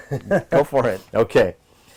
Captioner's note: laughing